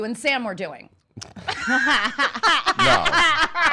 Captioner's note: laughing